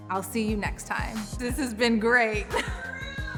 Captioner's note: laughs; claps